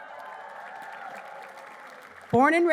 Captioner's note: applause